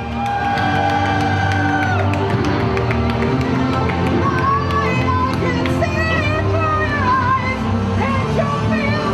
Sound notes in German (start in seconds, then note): 0.2 Jubel, Applaus; 3.9 mit hoher Stimme